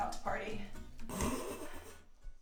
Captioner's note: camera person laughs